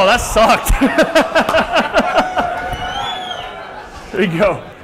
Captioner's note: laugh